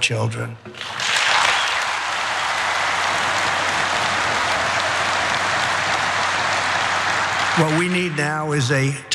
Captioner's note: applause